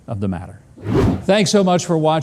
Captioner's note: air whooshing